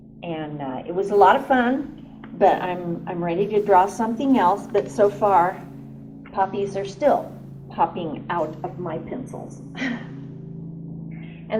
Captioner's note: laughs